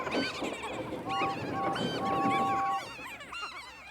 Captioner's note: toot toot toot